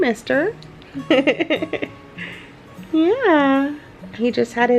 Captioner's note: giggles